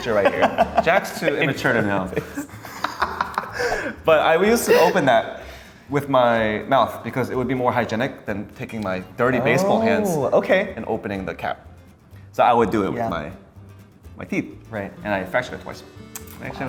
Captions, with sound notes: I'm gonna put a picture right here. Jack's too immature to know. (laughing) But I used to open that with my mouth because it would be more hygienic than taking my dirty baseball hands- - Oh, okay. And opening the cap. So I would do it with my teeth. Right. - And I fractured it twice.